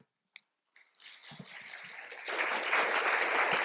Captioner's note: applause